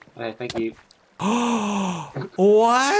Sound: gasps

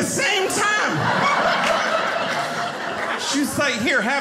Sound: audience laughing

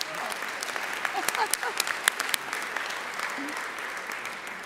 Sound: audience applauding

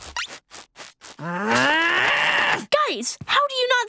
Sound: groaning

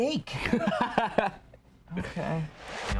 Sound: laughs

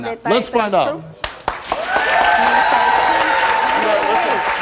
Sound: audience applauding

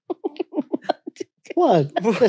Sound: laughing

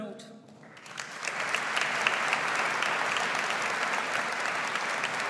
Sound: audience applauds

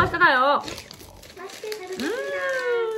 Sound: scratching

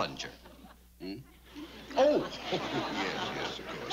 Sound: chuckles

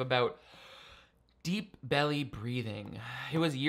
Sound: inhaling

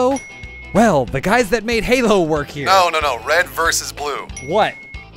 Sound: ding; ding

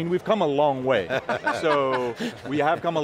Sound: all laughing

